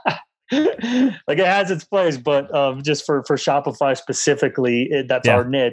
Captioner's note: laughs